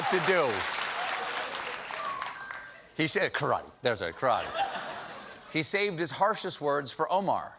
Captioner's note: cheers and applause